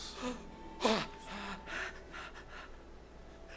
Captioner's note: gasping